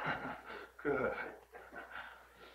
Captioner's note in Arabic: يضحك